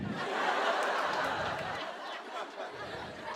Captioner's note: laughter